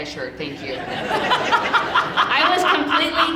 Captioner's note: audience laughing